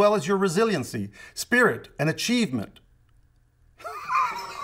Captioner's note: laughs